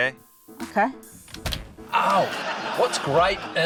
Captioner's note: clunk!